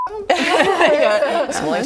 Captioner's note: laughing